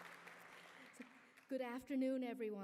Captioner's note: applause